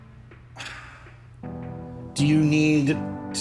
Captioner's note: sighs